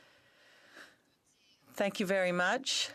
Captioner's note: speaking in French